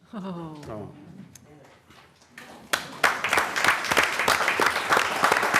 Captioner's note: applause